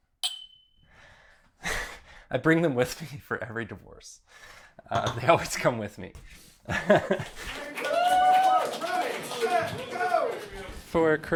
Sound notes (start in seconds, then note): 0.2 loud clink; 6.7 nervous chuckle; 7.1 applause; 7.4 cheering